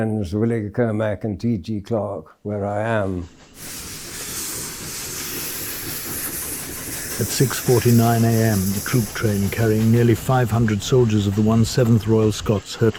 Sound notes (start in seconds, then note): 3.5 steam hissing; 3.6 wheels clattering